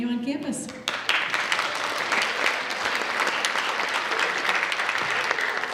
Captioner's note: audience applauds